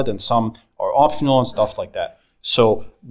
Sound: none

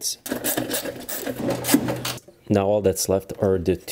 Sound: nut turning

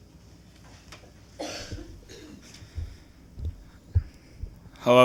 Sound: coughing

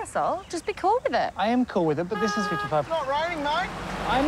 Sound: horn honks

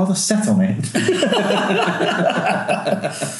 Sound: laughing

